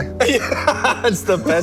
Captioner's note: laughs